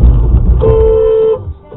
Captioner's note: dashcam driver honks